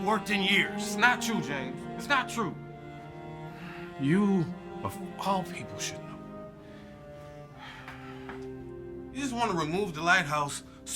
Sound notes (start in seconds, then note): 6.6 sighs